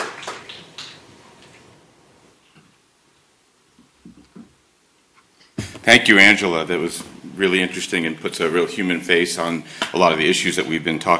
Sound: applause

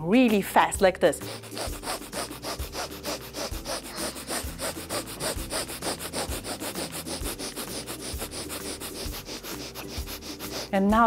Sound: quick short breaths

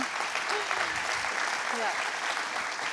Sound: applause

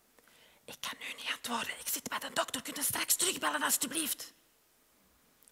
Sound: whispers

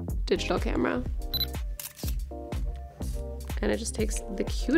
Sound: camera clicking

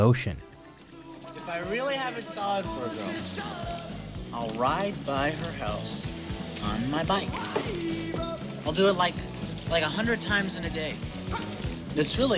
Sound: slurred speech

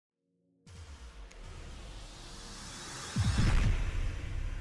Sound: electronic swoosh

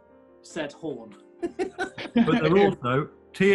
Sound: laughter

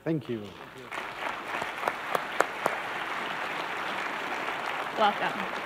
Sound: applause

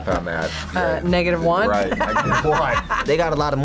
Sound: laughs

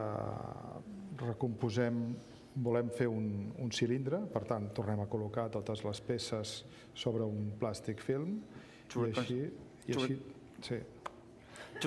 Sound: speaking catalan

